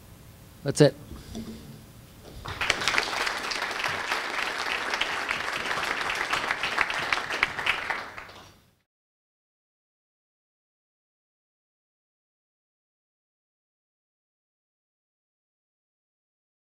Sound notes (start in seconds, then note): 2.3 audience applause